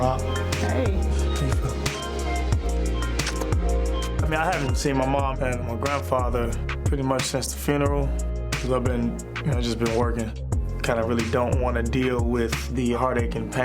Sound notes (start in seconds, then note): 2.9 lips smooching